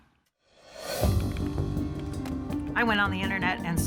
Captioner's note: typing on keyboard